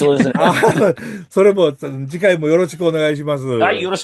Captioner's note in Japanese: 笑い